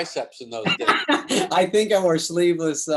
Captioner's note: David laughs